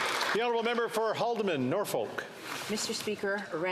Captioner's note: some Applause